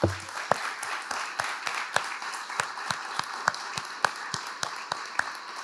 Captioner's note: audience applauding